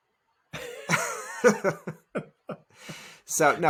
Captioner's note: laughing